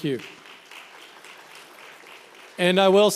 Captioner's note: members applauding